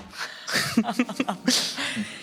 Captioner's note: they laugh